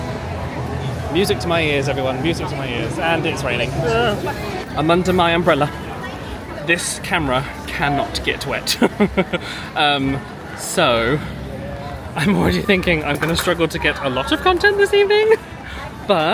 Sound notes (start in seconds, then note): 8.6 chuckles